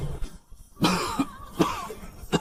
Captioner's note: cough, cough